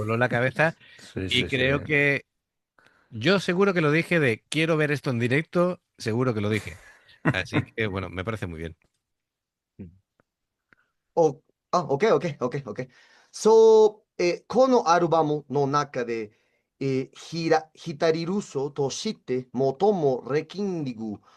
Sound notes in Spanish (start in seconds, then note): 13.4 carraspeo